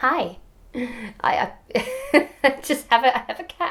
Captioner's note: laughs